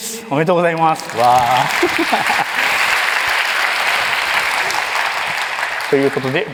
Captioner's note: applause; laughs